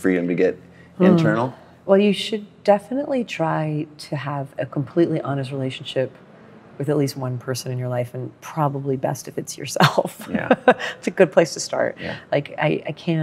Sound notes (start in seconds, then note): 10.5 laughs